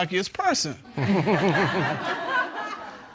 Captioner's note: chuckles